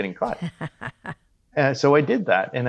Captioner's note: laughing